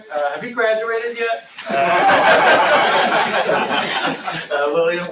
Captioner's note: laughter